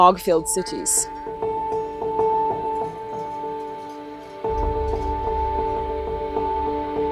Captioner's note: gentle music; sheep bells clanging